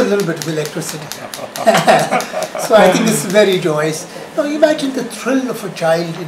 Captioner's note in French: rires